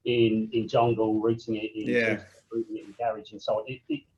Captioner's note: voice muffling